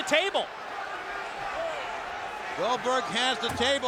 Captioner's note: audience cheering